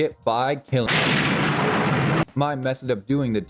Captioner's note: thunder